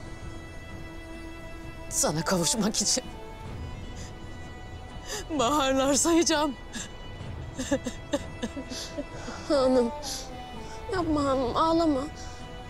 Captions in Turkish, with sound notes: Sana kavuşmak için... ...baharlar sayıcam. [Ağlama sesleri] Han'ım. Yapma Han'ım, ağlama.